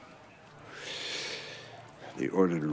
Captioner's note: sigh